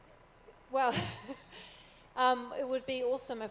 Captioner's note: laughs